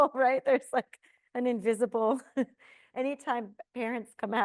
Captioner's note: chuckles